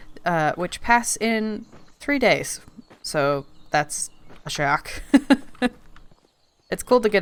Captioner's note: laughs